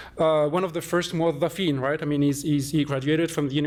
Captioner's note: non-english